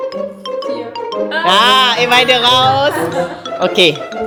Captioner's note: speaking German